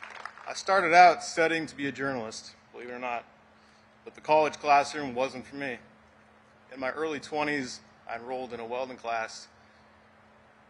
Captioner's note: applause